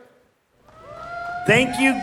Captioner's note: audience cheering